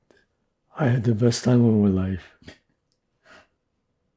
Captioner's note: laughing